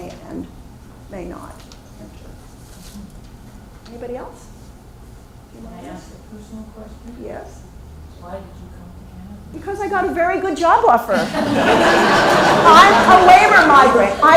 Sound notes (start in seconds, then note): 11.1 laughter